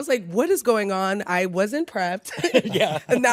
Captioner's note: chuckles